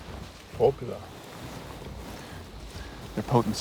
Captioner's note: speaking cherokee